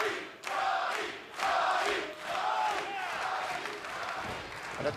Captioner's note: fans chanting